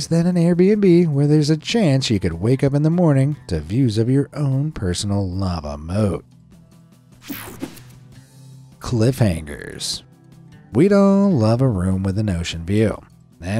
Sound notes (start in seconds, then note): 7.2 screen whooshing